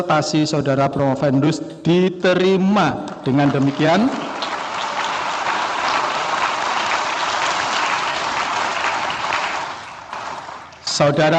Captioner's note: applause